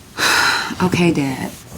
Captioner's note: sighs